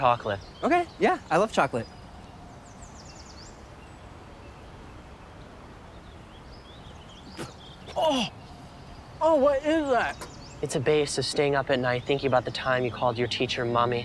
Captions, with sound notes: Okay. Yeah, I love chocolate. [birds chirping] [birds chirping] [spitting] Ugh. Oh, what is that? It's a base of staying up at night, thinking about the time you called your teacher Mommy,